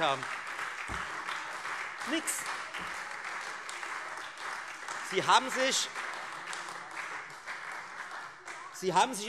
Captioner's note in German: Beifall Freie Demokraten, SPD und vereinzelt AfD